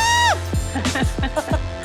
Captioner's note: both laugh